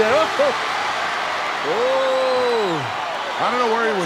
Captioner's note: audience cheering; chuckling